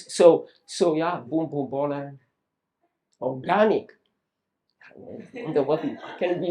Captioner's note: audience laughs